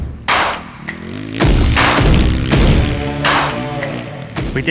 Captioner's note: engine revving